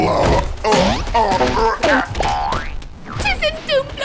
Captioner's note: Gloink Queen groaning; bonk!; sproing!; boink!